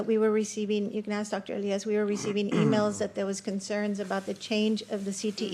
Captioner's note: clears throat